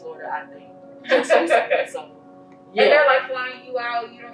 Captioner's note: laughing